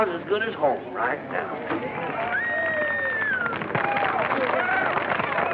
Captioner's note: cheering